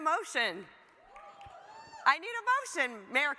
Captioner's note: audience cheers